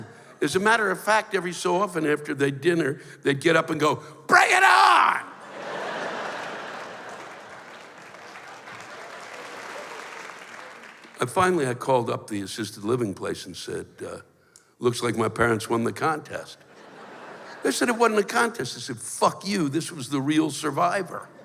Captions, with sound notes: As a matter of fact, every so often, after their dinner, they'd get up and go, "Bring it on!" [laughter] [applause] And finally I called up the Assisted Living place and said, uh, "Looks like my parents won the contest." They said it wasn't a contest. I said, "Fuck you, this was the real Survivor."